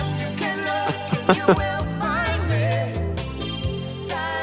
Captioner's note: Gaten laughing